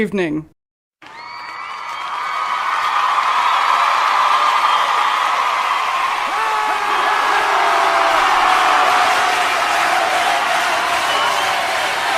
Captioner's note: massive crowd cheering erupts